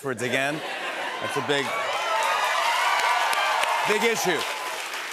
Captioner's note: cheers and applause